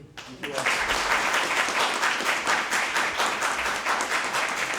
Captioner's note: audience applauding